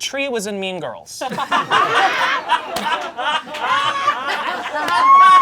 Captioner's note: audience laughing